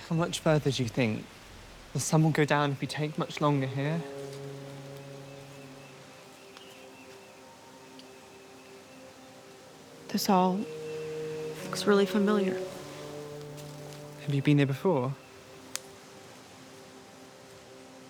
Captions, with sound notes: - How much further do you think? The sun will go down if we take much longer here. (birds chirping) (pensive music continues) - This all looks really familiar. - Have you been here before?